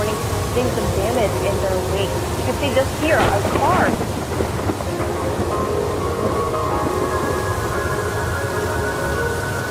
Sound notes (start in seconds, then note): 2.4 thunder cracks